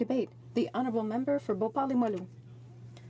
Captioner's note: speaking French